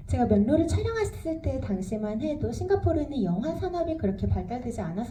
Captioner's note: speaks in foreign language